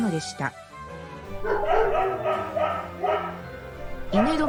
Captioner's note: dogs barking